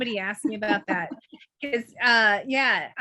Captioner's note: chuckles